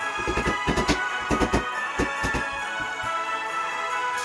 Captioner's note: hammer banging gently